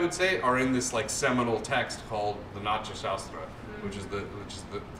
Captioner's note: non-english